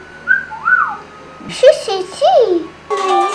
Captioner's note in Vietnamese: Mẹ huýt sáo